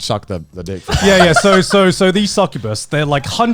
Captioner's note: laughing